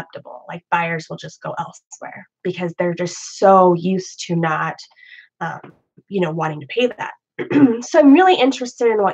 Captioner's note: clears throat